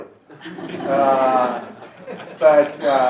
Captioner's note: laughter